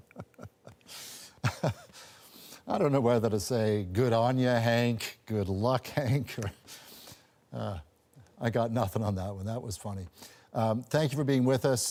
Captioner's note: laughter